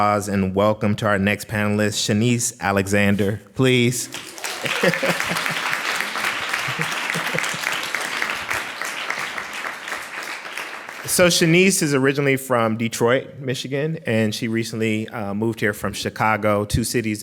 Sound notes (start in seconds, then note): 4.0 clapping